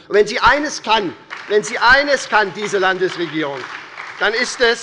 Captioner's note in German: Beifall bei der SPD